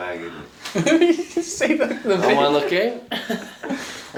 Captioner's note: laughing